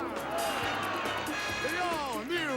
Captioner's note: audience applauding